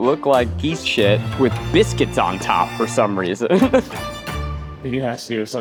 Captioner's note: laughs